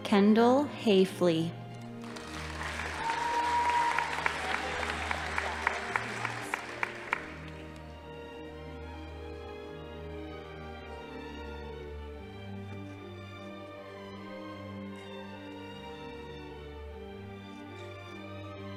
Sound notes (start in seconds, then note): 2.0 audience applauding; 2.0 crowd cheering